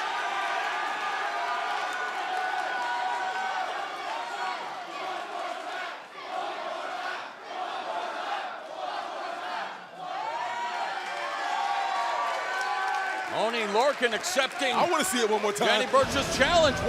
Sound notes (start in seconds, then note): 0.0 cheers and applause; 6.1 fans chanting